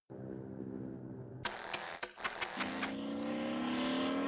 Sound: plane engine humming; engine sputtering

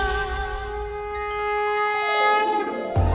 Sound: conch blows

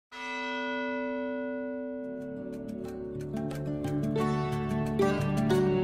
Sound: bell Toll

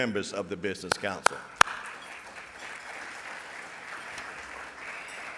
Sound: audience applauds

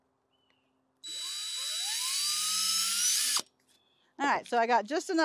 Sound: drill accelerating

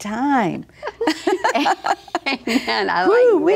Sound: laughs

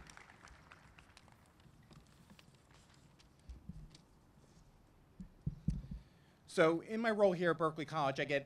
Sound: applause

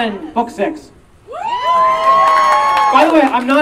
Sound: audience Cheering and Clapping

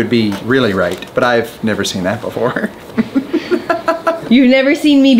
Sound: laughs

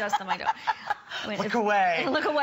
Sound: laughter

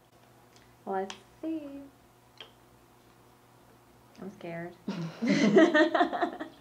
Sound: laughs

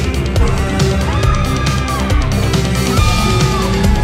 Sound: screams

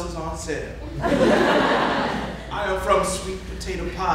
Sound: audience laughing

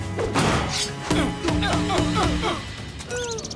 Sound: grunting

